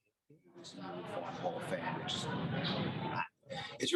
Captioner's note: audience chatter